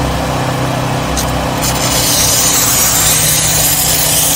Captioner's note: steam sprays